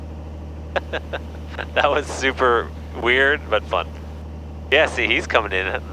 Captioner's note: laughs